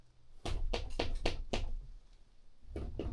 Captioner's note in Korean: 노크 똑똑